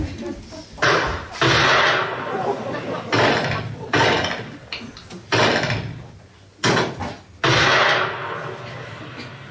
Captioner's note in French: Coups de fusils